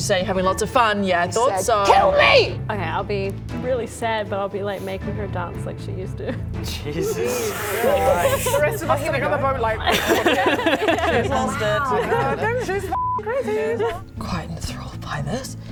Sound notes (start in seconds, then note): 6.7 laughing